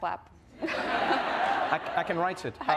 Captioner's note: audience laughs